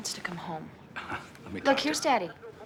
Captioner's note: chuckles